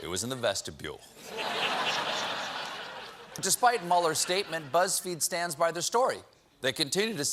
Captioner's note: laughter